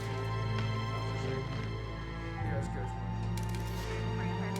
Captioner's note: indistinct chatter